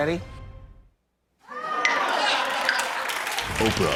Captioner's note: laughter